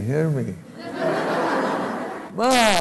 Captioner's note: laughter